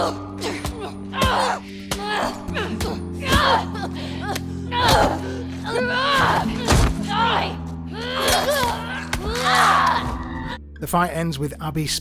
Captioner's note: grunting